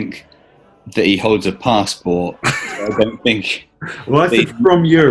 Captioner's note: chuckling